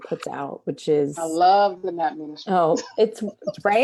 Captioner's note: laughs